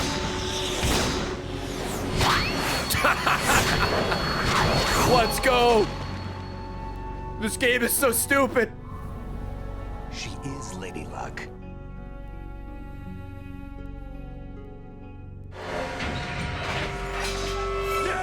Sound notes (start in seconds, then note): 2.8 laughs